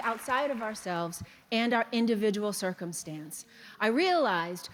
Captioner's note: applause